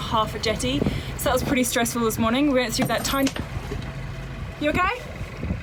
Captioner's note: pinging metal sound